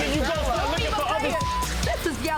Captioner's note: beep